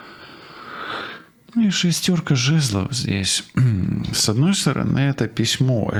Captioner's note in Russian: откашливается